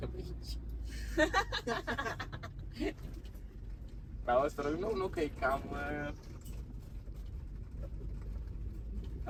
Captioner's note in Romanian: Râsete